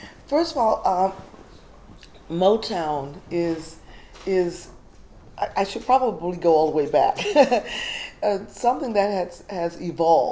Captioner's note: chuckle